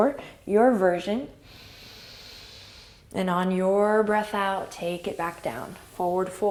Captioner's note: inhale